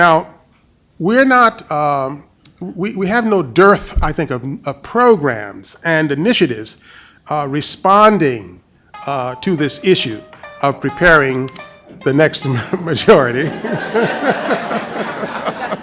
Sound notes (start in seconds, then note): 13.1 cell phone ringtone; 13.4 laughter